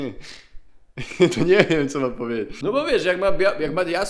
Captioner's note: laughs